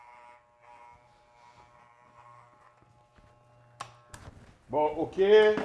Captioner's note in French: son de tondeuse à cheveux